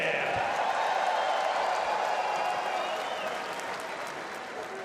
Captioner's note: crowd cheering